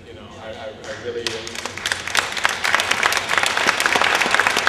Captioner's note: applause